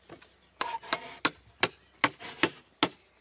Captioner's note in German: Hämmern